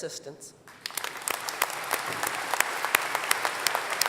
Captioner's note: applause